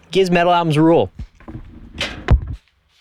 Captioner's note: metal clanking